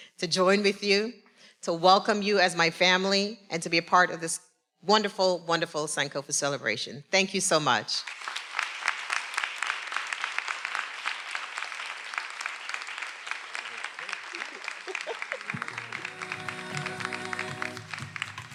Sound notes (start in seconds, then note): 8.1 everyone applauding; 13.6 speaking faintly; 13.8 chuckling